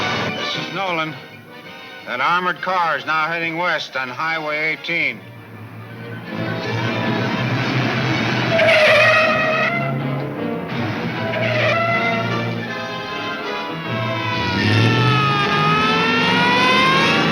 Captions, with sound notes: - This is Nolan, an armored car is now heading west on Highway 18. (tires squealing) (siren blaring)